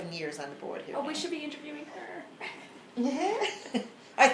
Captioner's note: laughs